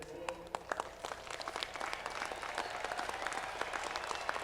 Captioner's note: audience clapping